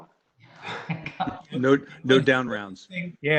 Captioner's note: laughs